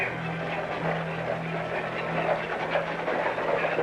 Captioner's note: hooves clopping